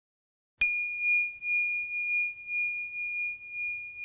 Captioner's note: bell chimes